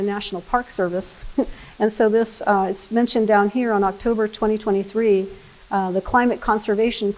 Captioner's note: laughs